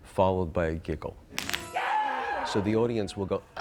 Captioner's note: bone snapping